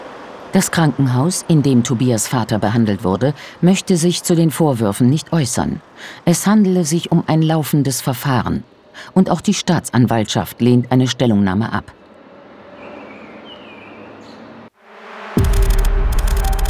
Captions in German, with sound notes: Das Krankenhaus, in dem Tobias' Vater behandelt wurde, möchte sich zu den Vorwürfen nicht äußern. Es handele sich um ein laufendes Verfahren. Und auch die Staatsanwaltschaft lehnt eine Stellungnahme ab. (Vogelgezwitscher) (Düstere Musik, Surren)